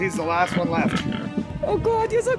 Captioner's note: Buddy oinking